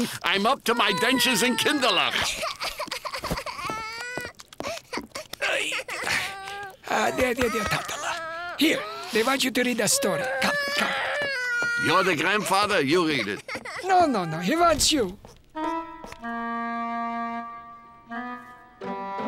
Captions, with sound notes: I'm up to my dentures in kindalak. [crying] [groaning] There, there, there ta-ta-la. Here, they want you to read a story. Come, come. You're the grandfather. You read it. No, no, no. He wants you.